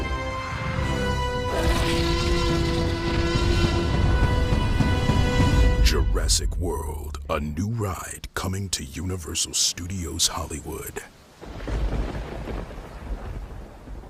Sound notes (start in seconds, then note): 1.4 T-Rex: Roar; 11.3 sfx: lightning clap